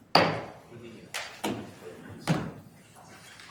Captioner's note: gavel bangs